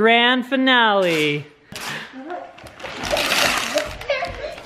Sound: paper rips

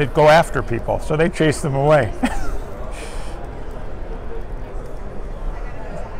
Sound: laughs

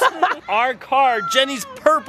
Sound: laughing

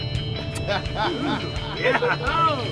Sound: laughing; kissy noise

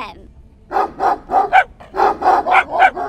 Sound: dogs bark

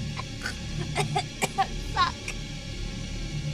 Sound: coughing

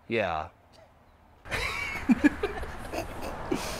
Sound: both laughing

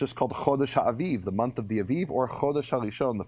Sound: speaking in a foreign language

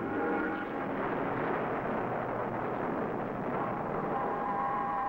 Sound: explosion booming

